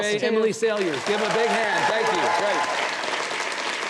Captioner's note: audience cheers